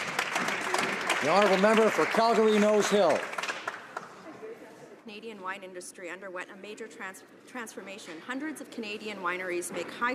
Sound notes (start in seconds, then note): 2.5 applause